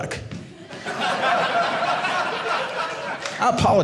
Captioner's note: audience laughing